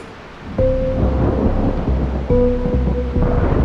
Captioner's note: thundering clouds